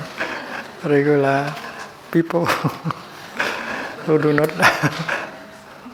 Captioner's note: chuckle